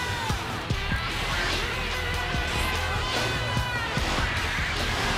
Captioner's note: crowd cheering